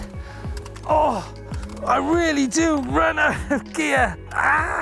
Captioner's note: groans